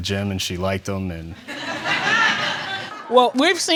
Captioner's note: audience laughing